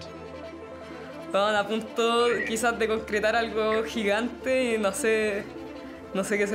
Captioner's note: speaking in foreign language